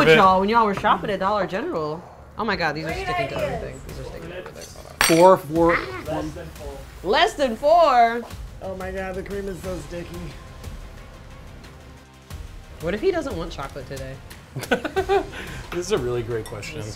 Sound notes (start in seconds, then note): 14.5 laughs